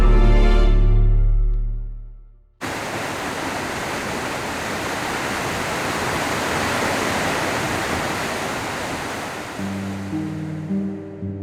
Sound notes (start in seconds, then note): 2.6 water sloshing; 9.5 gentle music